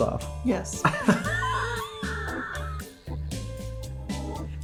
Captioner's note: both laughing